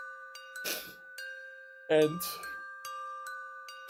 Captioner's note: sniffles